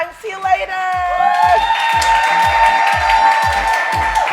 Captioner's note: audience cheering; upbeat music